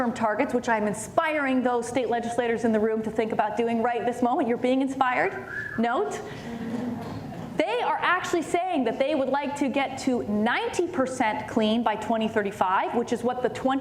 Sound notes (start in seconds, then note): 5.4 whistle; 6.5 light laughter